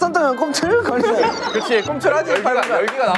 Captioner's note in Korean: 캬캬 캬캬